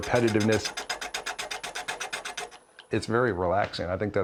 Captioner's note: wood clicking